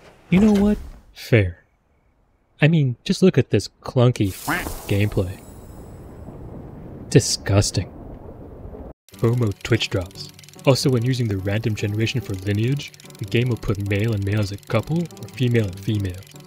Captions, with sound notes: You know what? Fair. I mean, just look at this clunky [QUACK] gameplay. Disgusting. FOMO Twitch drops. Also when using the random generation for lineage, the game will put male and male as a couple or female and female.